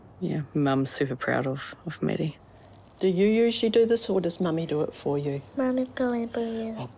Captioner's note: none